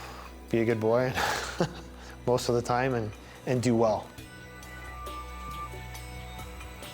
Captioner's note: laughs